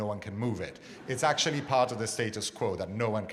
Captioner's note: audience laughs